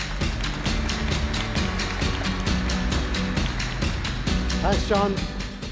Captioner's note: applause